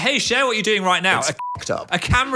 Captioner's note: beep